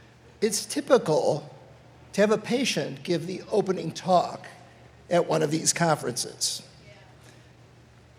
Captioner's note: none